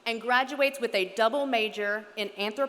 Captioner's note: none